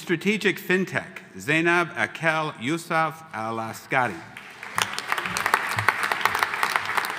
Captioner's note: audience applauding